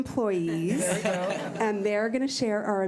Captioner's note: laughing